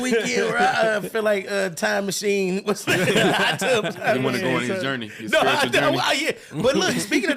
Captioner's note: laughing